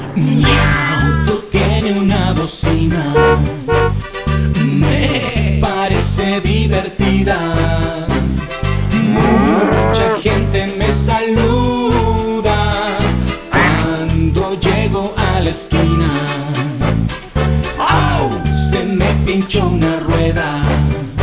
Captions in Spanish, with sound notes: (Sonido de gato) Miauto Tiene una bocina (Bocina) (Sonido de oveja) Mee parece divertida (Sonido de vaca) Muuucha gente me saluda (Sonido de pato) Cuando llego a la esquina (Sonido de lobo) ¡Auu! Se me pincho una rueda